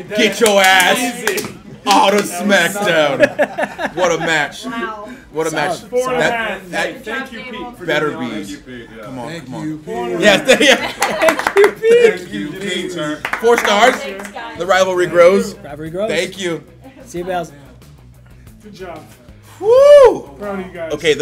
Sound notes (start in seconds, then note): 2.9 laugh; 13.1 applause